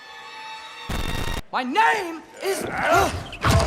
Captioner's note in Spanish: gritando